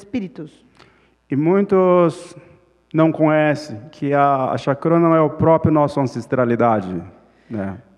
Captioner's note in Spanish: Ponente habla en portugués